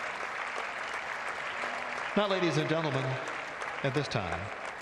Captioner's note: applause